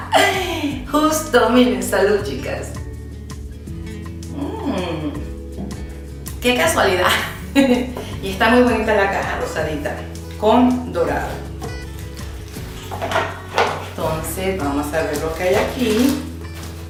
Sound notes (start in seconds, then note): 7.2 laughs